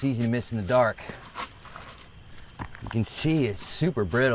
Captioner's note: footsteps crunching; insects chittering